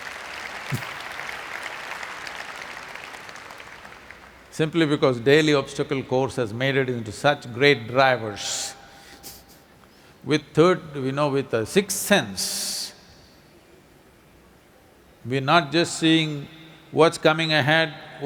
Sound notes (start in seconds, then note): 3.2 applause; 9.6 laughs